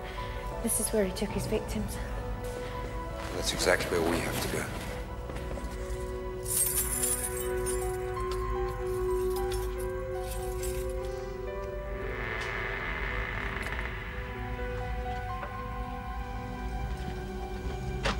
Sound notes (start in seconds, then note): 6.4 keys jangling; 6.8 soft orchestral music; 10.9 door creaking; 14.1 soft tense orchestral music